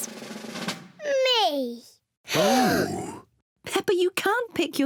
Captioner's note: drum roll; all gasp